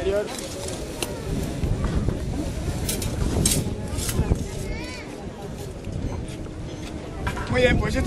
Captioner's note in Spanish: chocan las espadas, el público comenta, suena el viento